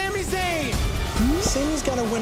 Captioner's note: crowd cheering